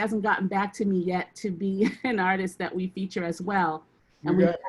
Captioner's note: laughs